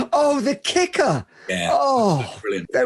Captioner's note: laughs